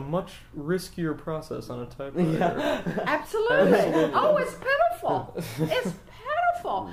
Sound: laughs

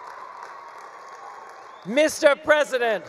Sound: attendees cheering; attendees applauding

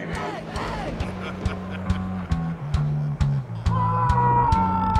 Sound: chuckling; Dameon screams

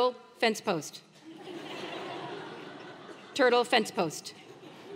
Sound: laugh

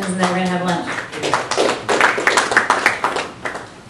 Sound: applause

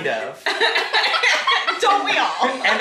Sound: family laughing

